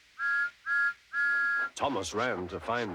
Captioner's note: tooting